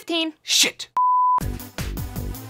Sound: beep; upbeat techno music

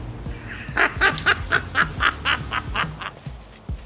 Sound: laughts

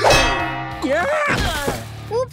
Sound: groaning

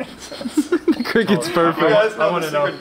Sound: cameraman laughs

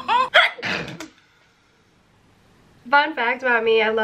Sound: laughs; sneezes

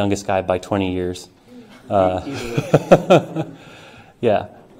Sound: laughter

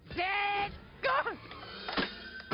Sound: yelps; electronic dance music

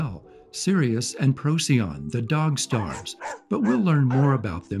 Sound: barking

